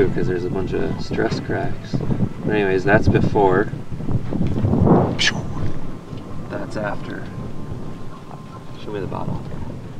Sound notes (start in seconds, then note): 4.6 wind blowing